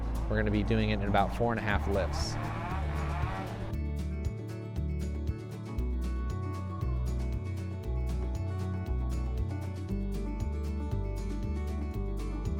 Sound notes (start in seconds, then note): 2.2 tool buzzing; 3.9 gentle country music continues